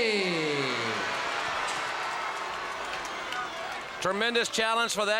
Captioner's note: crowd cheering